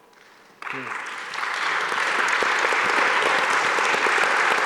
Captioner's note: audience applauding